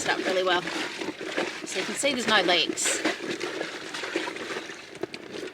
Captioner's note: water continues sloshing